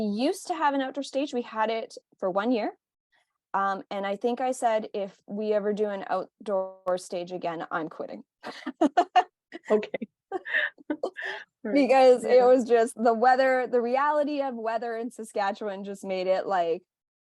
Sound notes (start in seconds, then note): 9.5 laughing; 11.4 laughing